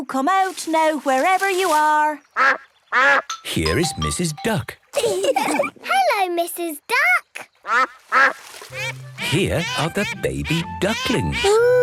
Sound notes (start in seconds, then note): 2.4 quacks; 5.0 all laugh; 8.7 quacks